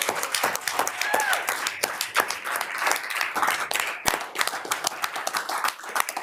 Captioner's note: group laughs; group cheers and applauds